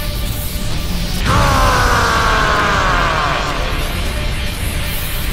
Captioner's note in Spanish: Gritos